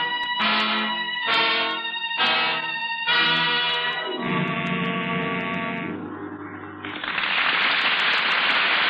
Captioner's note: dramatic music; audience applauds